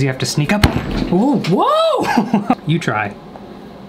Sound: exclaiming; laughs

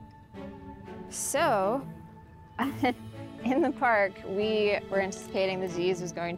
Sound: chuckles

